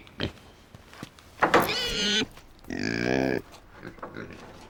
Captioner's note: pig squeals